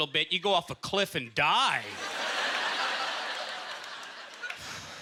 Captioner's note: audience laughter